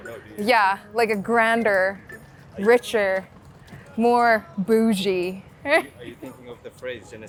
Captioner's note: laughing